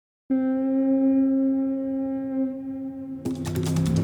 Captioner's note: foghorn blowing